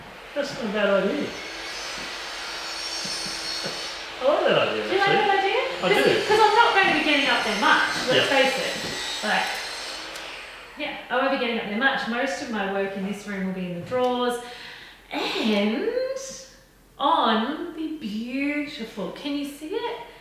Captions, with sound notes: - That's not a bad idea. (grinder squealing) - I like that idea. I do. - Do you look that idea? 'Cause I'm not ready to getting up there much. - Yep. - Lets face it. Right. Yeah, I wouldn't be getting up there much. Most of my work in this room will be in the drawers, and on the beautiful, can you see it?